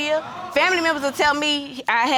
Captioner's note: audience exclaims